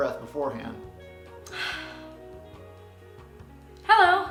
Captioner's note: deep breath/sigh